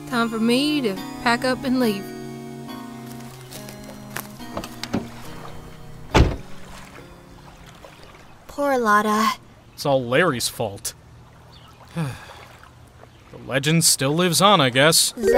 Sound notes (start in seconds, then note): 3.0 footsteps; 5.8 car door opens, closes; 11.9 sigh